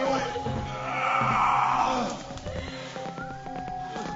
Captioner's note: grunting